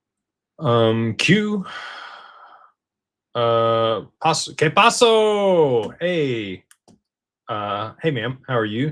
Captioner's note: sighs and gasps